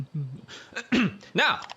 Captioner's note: clears throat